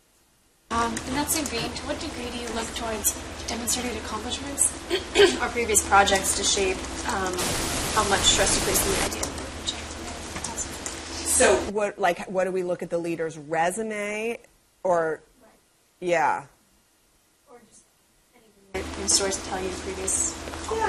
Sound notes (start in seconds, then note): 6.1 cough